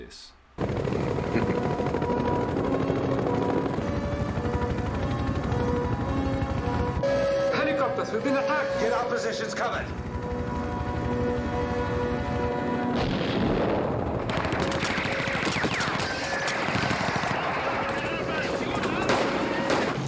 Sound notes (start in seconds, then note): 0.3 helicopter noise; 7.0 air horn alarm; 10.6 helicopter noise; 13.0 boom; 13.2 machine guns firing, ricochets